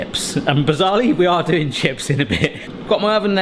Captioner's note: chuckles